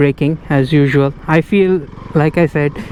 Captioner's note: brakes